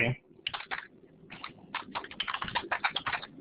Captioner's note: typing